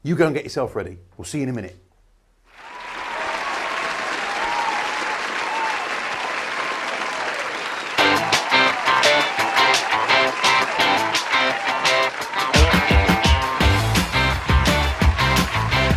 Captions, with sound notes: You go and get yourself ready. We'll see you in a minute. (audience cheering) (upbeat music)